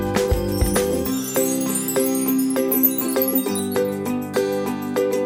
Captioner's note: sparkle noises; whimsical children's music